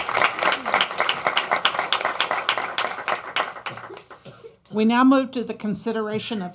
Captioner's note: applause